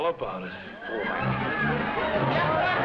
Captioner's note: man speaking foreign language; partygoers laughing; upbeat music